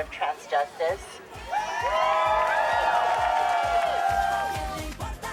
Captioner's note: crowd cheering